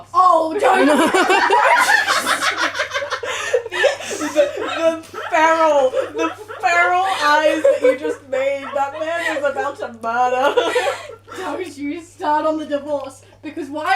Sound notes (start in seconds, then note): 1.1 laughter; 3.0 evil cackling from my friend